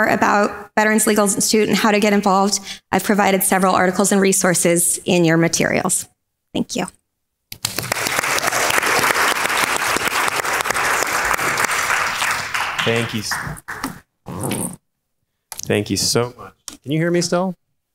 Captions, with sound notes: about Veterans Legal Institute, and how to get involved I've provided several articles and resources in your materials. Thank you. (crowd claps) - Thank you. Thank you so much. Can you hear me still?